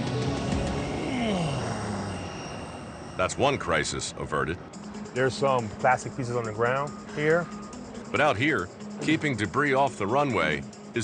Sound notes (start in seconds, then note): 1.0 grunts